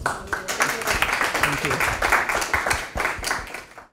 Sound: audience applauding

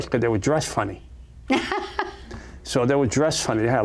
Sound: laughs

